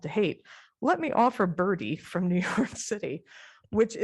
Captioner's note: laughter